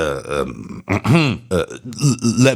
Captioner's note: clears Throat